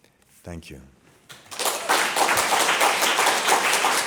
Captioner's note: applause